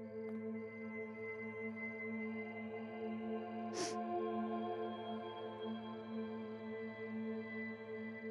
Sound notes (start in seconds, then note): 3.7 Sniffs